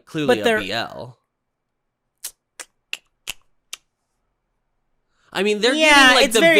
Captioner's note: clicks mouth